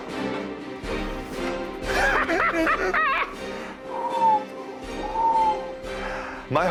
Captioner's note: cackles